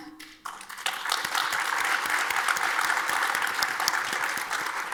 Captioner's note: audience applauds